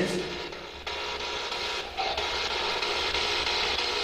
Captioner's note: static buzzing